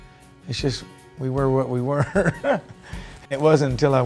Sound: laughs

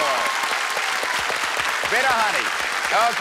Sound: applause

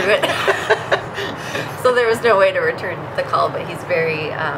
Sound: laughter

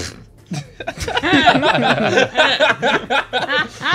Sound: laughter

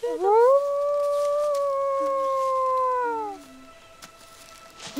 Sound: wolf howl

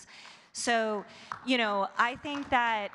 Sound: audience clapping

